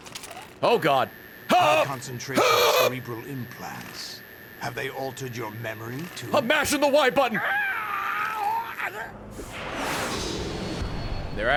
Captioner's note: screams